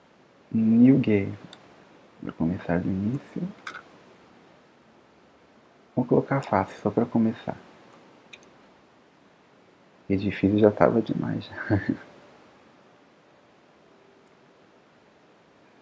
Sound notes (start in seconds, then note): 11.5 laughs